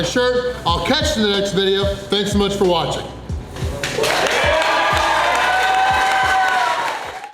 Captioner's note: crowd cheering